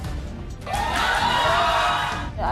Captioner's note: audience yelling